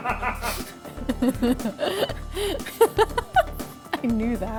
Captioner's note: cameraman laughs; laughs